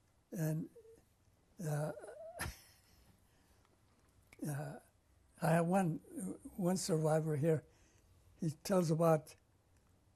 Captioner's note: laughs; pauses for 3 seconds